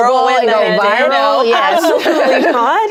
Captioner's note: laughs